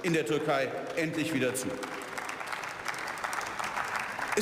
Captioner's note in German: Beifall